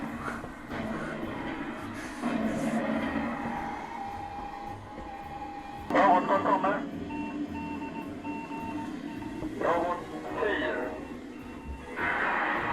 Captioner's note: sounds of negotiations